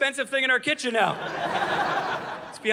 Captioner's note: audience laughing